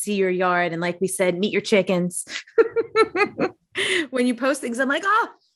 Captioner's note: chuckling